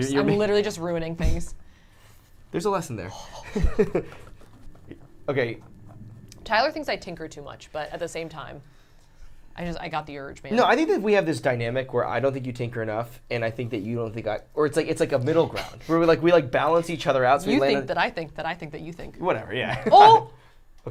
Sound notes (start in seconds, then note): 3.2 laughs; 17.7 laughs; 19.7 laughs